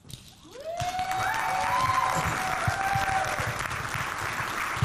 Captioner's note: audience clapping